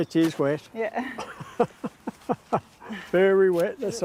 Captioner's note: laughs